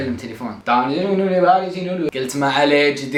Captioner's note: imitating Urdu speech